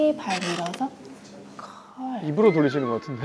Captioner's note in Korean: 삐걱삐걱